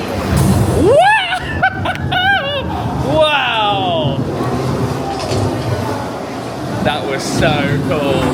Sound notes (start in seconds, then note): 0.8 squealing